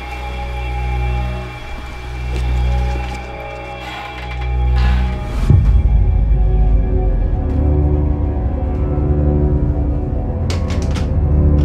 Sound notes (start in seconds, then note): 4.0 door creaks; 5.9 eerie music continues